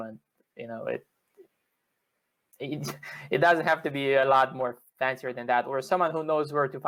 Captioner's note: laughter